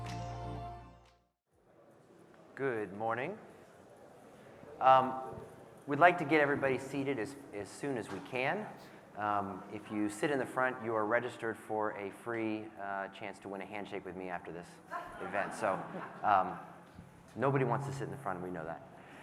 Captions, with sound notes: - Good morning. We'd like to get everybody seated as soon as we can. If you sit in the front, you are registered for a free chance to win a handshake with me after this event. (audience laughing) So nobody wants to sit in the front and we know that.